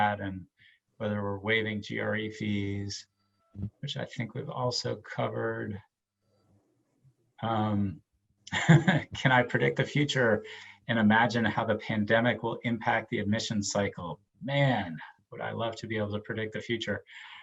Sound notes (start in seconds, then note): 8.5 laughs